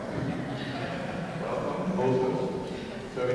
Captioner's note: laughing